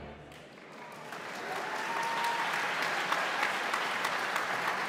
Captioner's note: audience claps